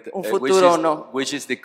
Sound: speaking spanish

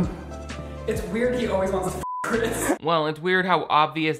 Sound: beep

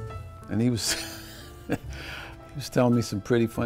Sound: laughing

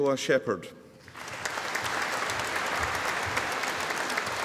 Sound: audience applauding

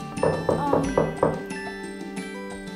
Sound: door knocked

